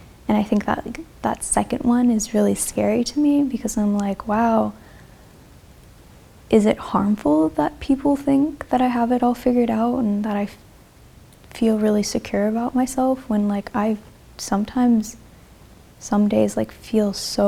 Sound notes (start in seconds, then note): none